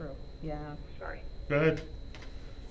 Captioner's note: voice On Computer